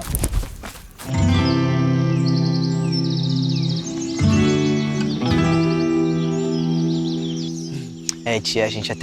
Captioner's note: birds